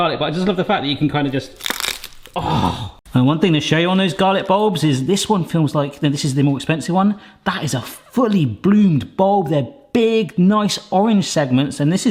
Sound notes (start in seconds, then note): 1.4 garlic crunching; 2.4 gasps